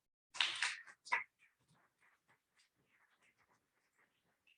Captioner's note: audience applauding